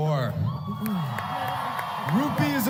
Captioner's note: applause